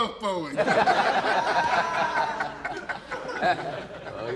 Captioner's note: laughter